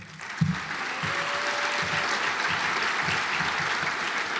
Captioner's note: audience applauds